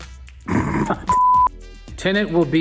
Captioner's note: laughs